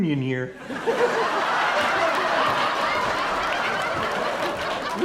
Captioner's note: audience laughing